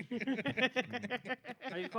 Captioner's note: laughing